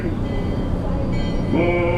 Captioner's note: bell ring